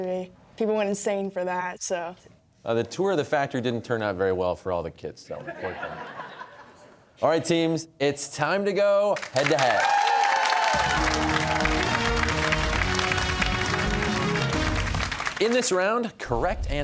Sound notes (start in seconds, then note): 5.4 laughter; 9.2 cheers and applause